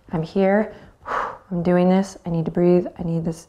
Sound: exhales

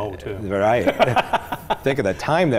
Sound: laughing

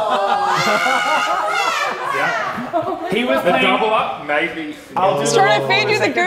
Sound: screaming

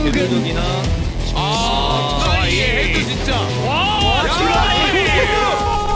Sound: speaking foreign language

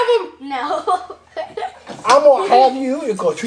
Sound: giggles

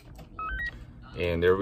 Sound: radio beeps

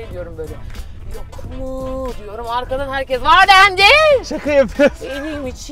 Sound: laughs

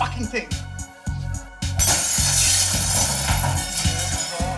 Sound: glass shattering

